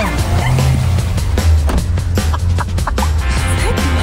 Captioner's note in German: lacht